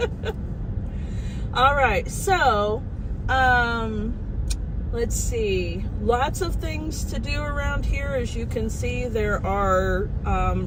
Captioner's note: laughing